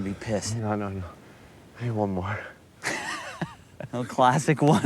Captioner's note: laughs